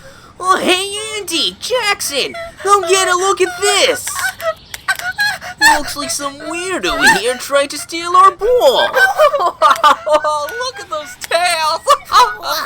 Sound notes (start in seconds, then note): 8.9 laughing